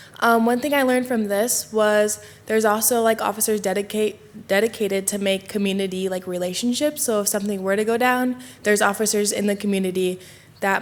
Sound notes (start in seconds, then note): none